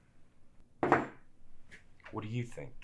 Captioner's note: glass thudding